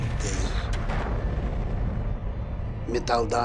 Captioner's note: explosion